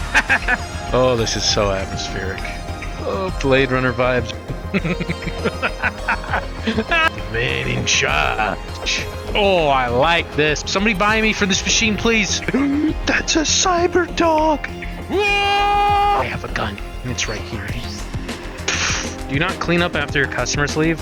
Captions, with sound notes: *Laughing* Oh, this is so atmospheric. Oh, Blade Runner vibes *Laughing* The man in charge. Oh, I like this! Somebody buy me from this machine please! *Gasp* That's a cyber-dog! *Yelling in fear* I have a gun, and it's right here. Do you not clean up after your customers leave?